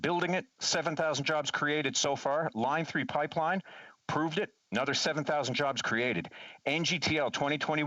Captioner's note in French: voix de l'interprète